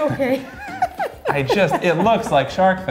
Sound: laughs

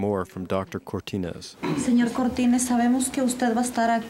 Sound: woman speaking Spanish

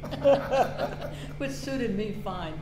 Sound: all laughing

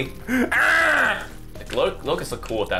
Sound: thwomp-like baby sound

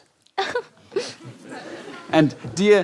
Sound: giggles

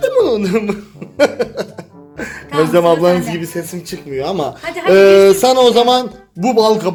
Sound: laughs

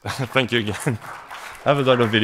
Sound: applause

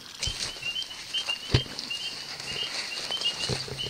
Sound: device beeping

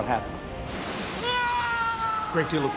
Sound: yelling

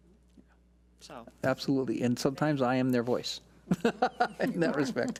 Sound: laughs

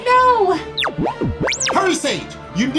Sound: beeping

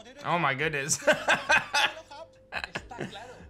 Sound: laughs

